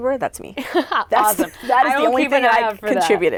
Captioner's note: laughs